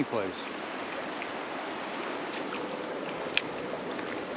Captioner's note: water flowing; rod whipping